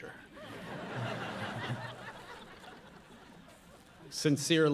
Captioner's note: audience laughing